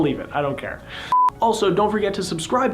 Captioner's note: beeping